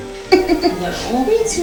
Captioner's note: laughing